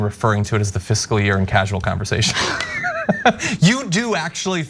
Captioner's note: laugh